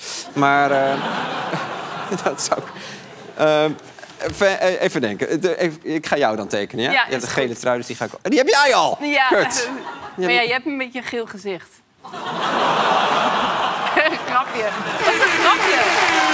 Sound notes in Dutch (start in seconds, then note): 3.5 gelach; 14.6 gelach